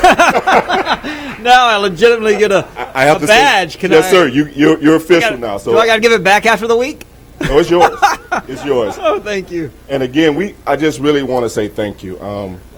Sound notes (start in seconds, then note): 7.4 laughter